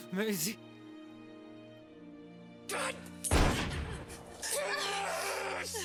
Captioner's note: gun shooting